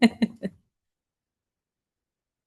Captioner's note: laughter